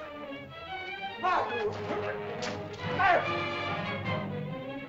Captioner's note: dramatic music; shouting in caveman language; dramatic music